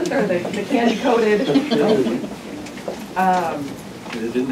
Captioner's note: laughter